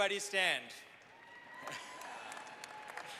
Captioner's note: applause